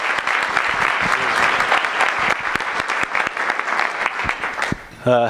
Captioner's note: applause